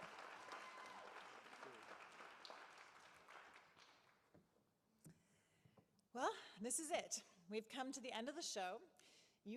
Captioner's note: applause